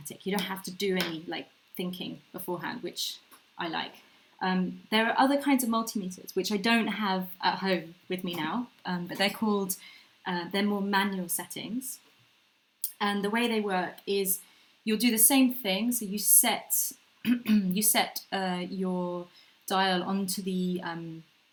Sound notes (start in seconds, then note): 17.2 clears throat